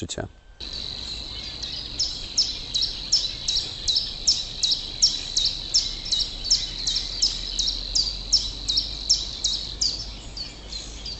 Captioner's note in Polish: śpiew ptaków